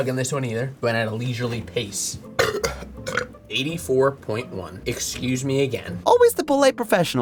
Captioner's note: burping